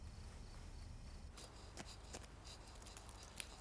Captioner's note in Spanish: raspando con papel de lija